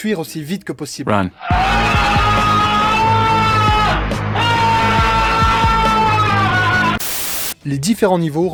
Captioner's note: howl